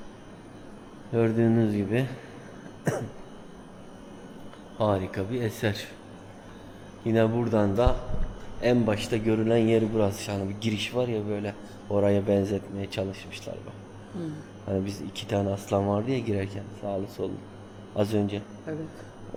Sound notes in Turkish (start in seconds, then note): 2.6 boğazını temizler